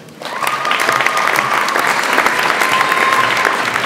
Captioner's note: audience applauds